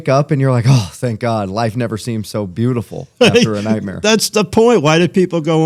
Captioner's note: laughter